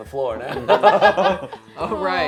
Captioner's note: laughter